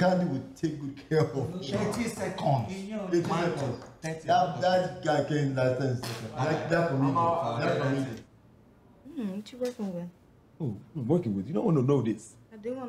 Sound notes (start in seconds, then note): 0.9 laughing; 3.7 speaking Igbo